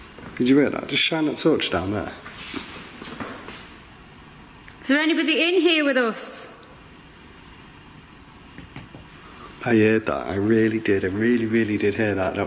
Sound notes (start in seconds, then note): 8.6 tapping